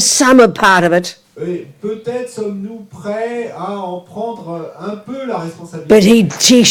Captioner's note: audience member speaks in French